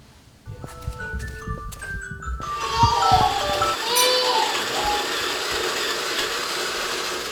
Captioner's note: upbeat chiming music; baby crying